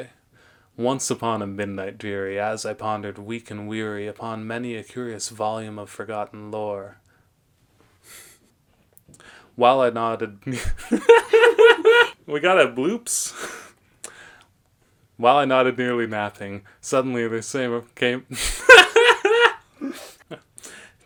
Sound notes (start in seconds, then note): 10.8 laughs; 17.5 fumbles; 18.4 maniacal laughter